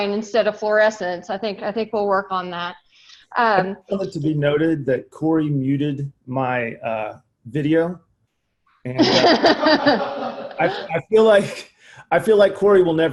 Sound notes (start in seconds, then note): 8.9 laughs